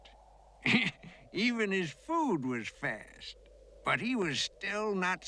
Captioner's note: Хихикает